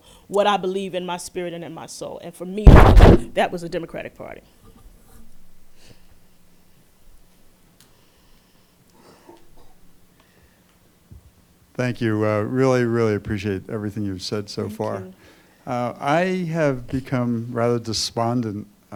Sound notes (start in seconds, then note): 11.9 voiceover